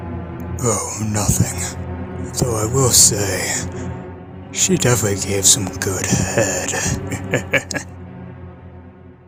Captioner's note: chuckles